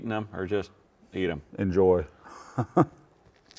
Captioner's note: laughs